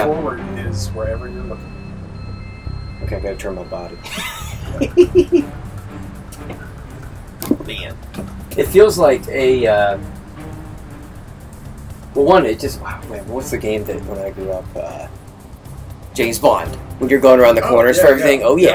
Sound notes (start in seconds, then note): 4.0 laughs